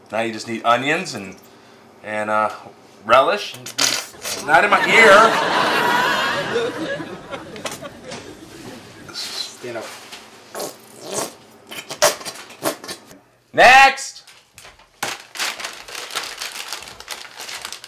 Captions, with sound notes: Now, you just need onions and relish. (bottle makes farting sound) Not in my ear! (audience laughs) - Stand up. (bottle makes farting sound) - Next!